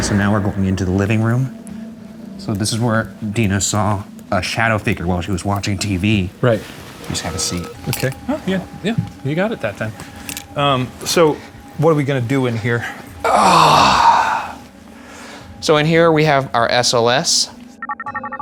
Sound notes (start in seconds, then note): 13.2 grunting